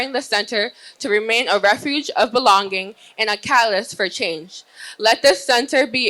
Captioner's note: none